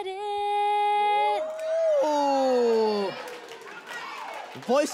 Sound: audience cheers

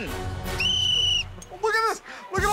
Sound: whistle blows

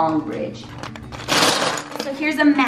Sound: rattling

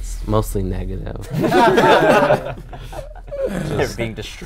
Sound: laughing

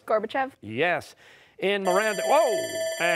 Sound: timer sounding

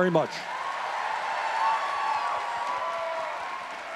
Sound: audience cheering

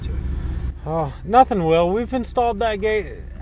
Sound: sighs

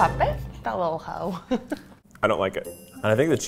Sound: laughing

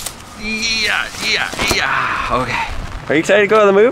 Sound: relieved sighing

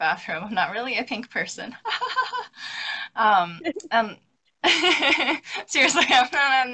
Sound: laughs

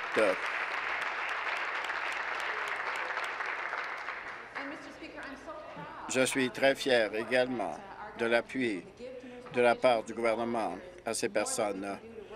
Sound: applause

